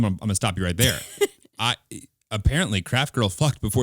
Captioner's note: laughing